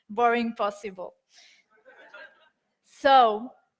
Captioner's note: audience laughs